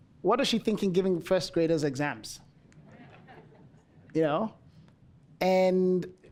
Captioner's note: audience chuckles